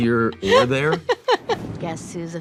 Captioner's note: Zoey laughing